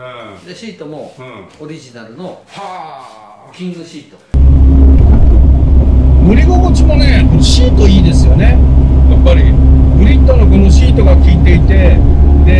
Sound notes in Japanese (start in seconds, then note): 4.6 サスペンションの音